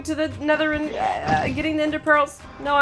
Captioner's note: frantic gurgling